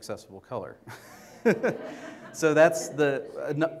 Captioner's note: laughs with audience